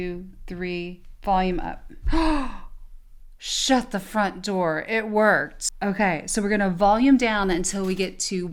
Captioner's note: breathes in sharply